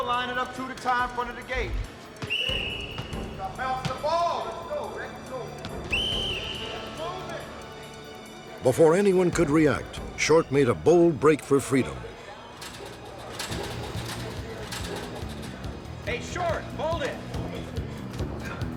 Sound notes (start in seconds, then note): 2.2 whistle blowing; 5.8 whistle blowing